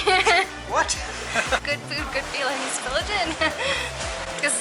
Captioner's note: laughter